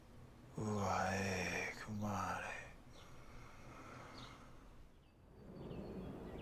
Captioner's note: inhales; 吸气; inhales; 吸气